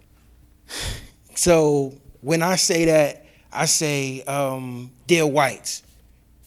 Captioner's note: sighs